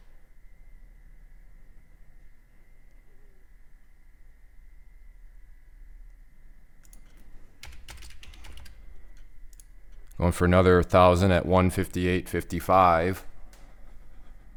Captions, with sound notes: (typing) Going for another 1,000 at 158.55.